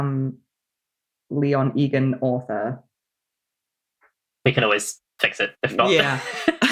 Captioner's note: laughs